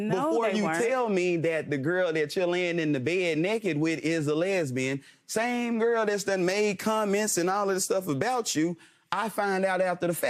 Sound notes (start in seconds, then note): none